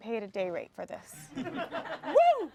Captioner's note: everyone laughs